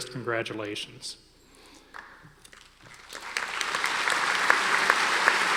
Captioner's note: audience applauding